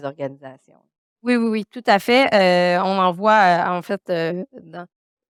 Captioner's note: speaking French